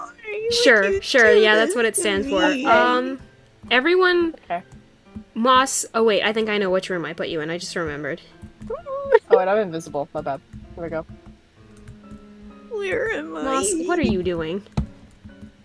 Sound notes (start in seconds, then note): 8.6 more sad noises